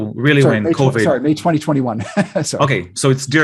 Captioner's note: laughs